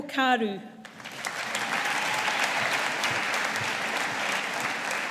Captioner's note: audience applauding